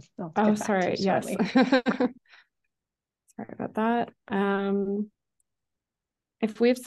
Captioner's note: chuckles